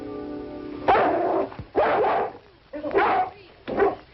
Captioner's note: dog barking